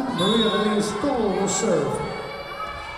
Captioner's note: whistle blowing